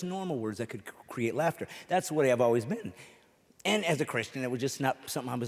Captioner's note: none